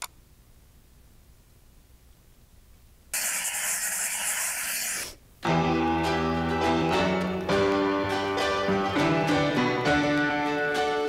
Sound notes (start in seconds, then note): 3.1 pencil scribbling on paper; 5.5 upbeat piano music